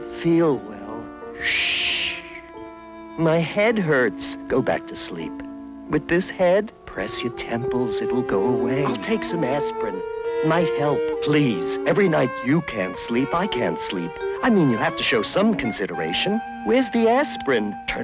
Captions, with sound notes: - I don't feel well. (shushing) My head hurts. - Go back to sleep. - With this head? - Press your temples, it'll go away. - I'll take some aspirin, it might help. - Please, every night you can't sleep, I can't sleep. - You have to show some consideration, where's the aspirin?